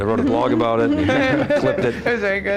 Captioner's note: laughter